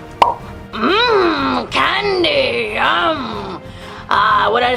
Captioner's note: popping